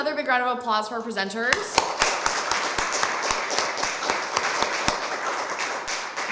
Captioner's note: applause